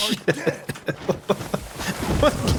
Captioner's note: laughter